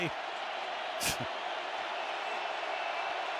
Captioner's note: crowd cheering